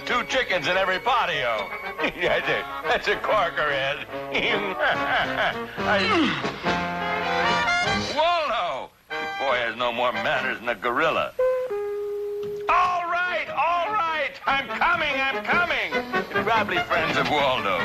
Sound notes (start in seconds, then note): 4.1 Mr. Magoo chuckling; 5.7 gorilla grunting; 10.3 doorbell ringing